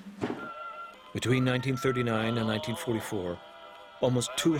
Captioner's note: voiceover